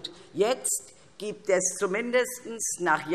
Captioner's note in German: none